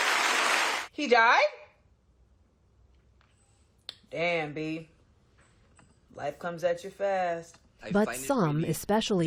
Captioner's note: applause